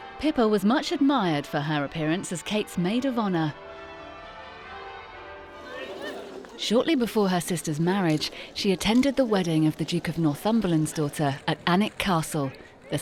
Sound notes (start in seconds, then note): 4.0 bells tolling